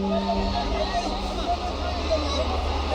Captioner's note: angry crowd